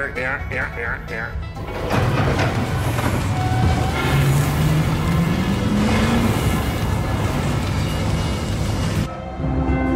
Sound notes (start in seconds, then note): 1.6 clanking noise; 1.6 machinery engages